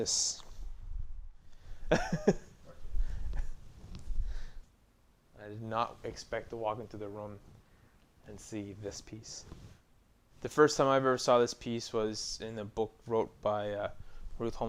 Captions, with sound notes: I was not expecting this. [laughing] I did not expect to walk in to the room and see this piece. The first time I ever saw this piece was in the book